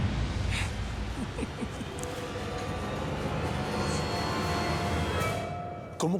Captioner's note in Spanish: risas